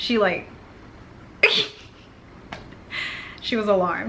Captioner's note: laughs